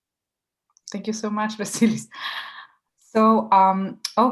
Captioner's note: laughing